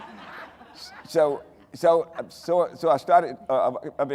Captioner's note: audience laughing; stammering